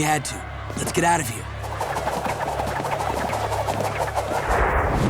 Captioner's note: swooshing